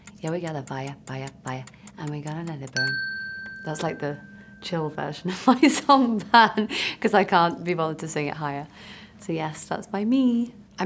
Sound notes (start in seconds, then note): 2.7 bell dinging; 5.3 laughing